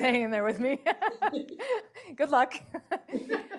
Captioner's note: laughter